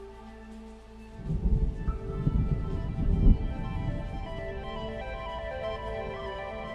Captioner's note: patter of rain; thunder